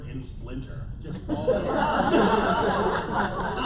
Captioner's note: laughter